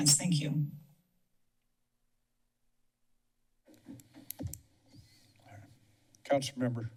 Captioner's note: silence